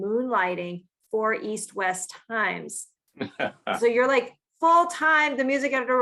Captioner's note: laughs